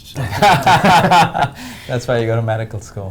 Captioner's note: laughter